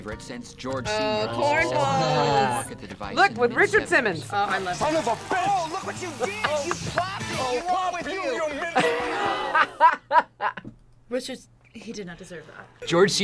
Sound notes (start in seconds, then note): 2.5 laughs; 8.6 laughs